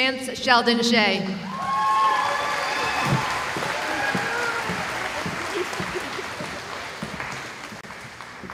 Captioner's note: cheering